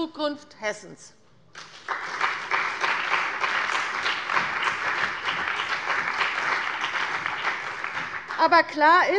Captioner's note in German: Beifall bei der CDU und dem BÜNDNIS 90/DIE GRÜNEN